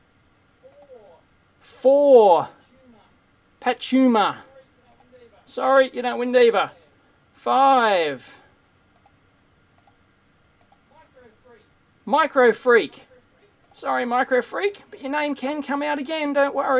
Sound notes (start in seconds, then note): 9.7 mouse clicking